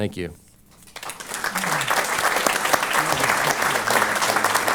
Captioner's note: applause